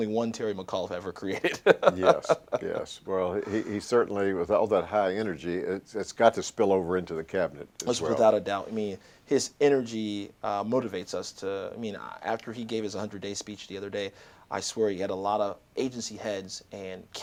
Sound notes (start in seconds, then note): 1.3 laughter